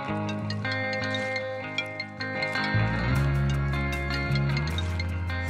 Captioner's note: phone ringing